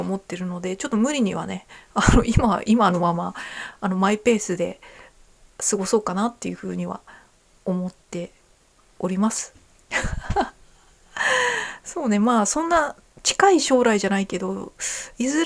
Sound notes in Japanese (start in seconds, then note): 9.9 笑い